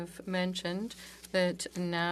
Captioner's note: speaking French